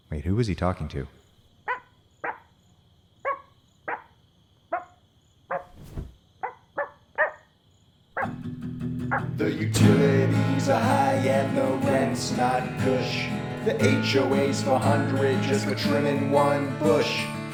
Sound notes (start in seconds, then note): 1.6 dog barking